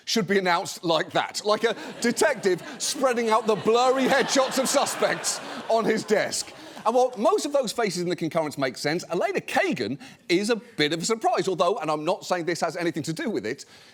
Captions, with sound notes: should be announced like that. Like a detective spreading out the blurry headshots -of suspects on his desk. -(AUDIENCE LAUGHS) And while most of those faces in the concurrence make sense, Elena Kagan is a bit of a surprise. Although, and I'm not saying this has anything to do with it,